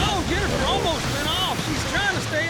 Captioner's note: huge splash